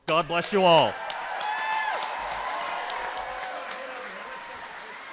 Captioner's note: applause